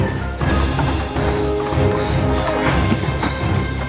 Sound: heavy breathing

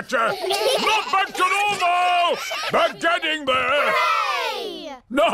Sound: chuckles; children giggling

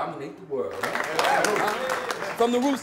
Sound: applause

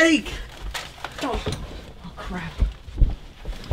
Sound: BEN stammers

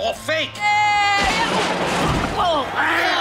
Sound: yell

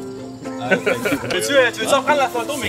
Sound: laughs

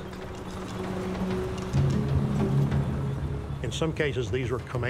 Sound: tank rumbling; ominous instrumental music

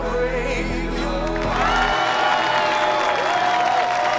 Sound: cheers and applause

